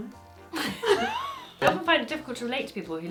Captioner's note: they laugh